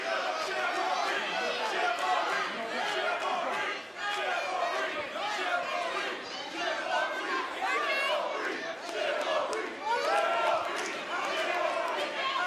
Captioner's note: fans chanting